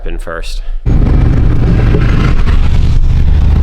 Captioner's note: engine Revving